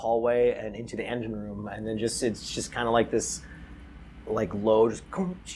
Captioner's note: engine room noises